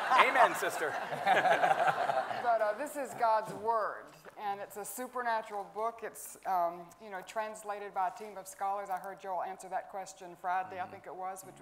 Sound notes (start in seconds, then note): 0.0 everyone laughing